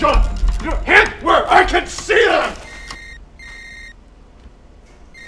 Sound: phone rings

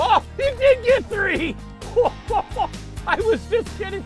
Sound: laughing

